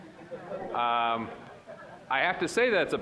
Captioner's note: audience laughing